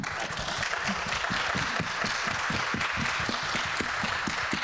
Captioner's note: people clapping